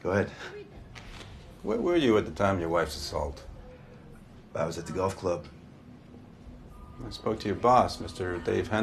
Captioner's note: none